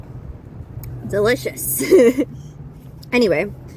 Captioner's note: laughs